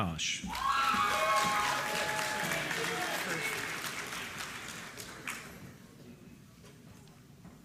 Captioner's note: applause